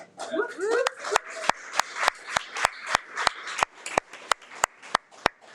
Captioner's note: audience applauding